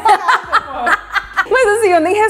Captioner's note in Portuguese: risos